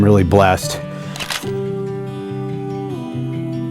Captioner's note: sound of camera shutter - photos; soft music